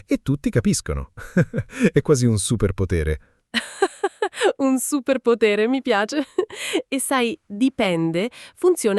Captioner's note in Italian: risate